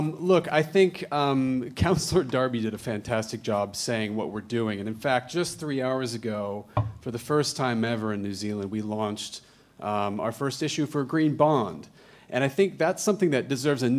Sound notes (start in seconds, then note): none